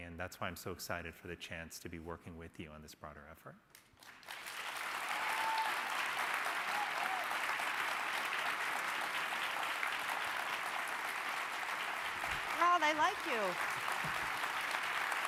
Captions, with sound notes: And that's why I'm so excited for the chance to be working with you on this broader effort. (crowd applauding) (crowd cheering) - Wow, they like you.